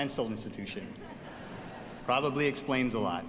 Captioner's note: audience laughs